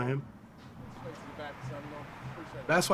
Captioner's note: indistinct conversation